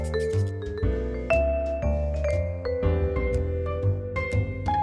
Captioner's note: none